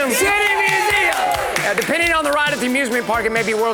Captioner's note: crowd cheers and claps